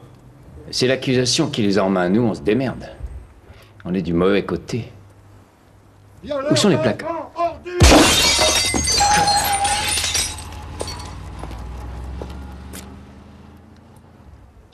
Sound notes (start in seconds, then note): 8.7 gunshot; 8.7 tires screeching